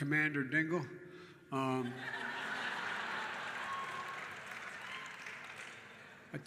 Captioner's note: laughter and applause